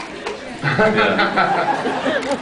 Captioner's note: laughs; scattered laughs